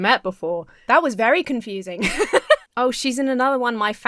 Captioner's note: Emma laughs